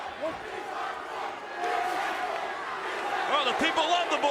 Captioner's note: audience chants